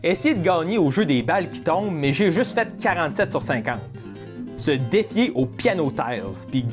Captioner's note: none